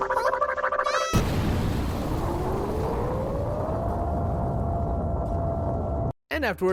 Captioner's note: robotic gibberish; explosion